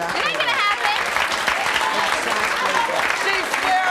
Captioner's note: clapping